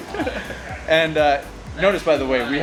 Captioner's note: laughs